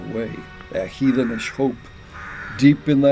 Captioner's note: bird cawing